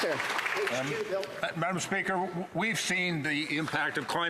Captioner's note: some Applause